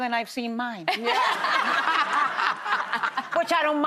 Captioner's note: laughing